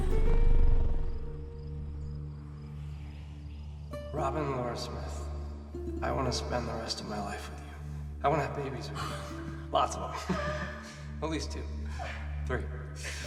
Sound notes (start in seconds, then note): 0.2 mysterious string music; 9.0 laughs; 10.3 Robin gasps